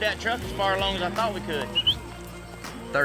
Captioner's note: whistles